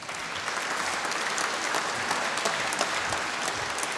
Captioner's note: applause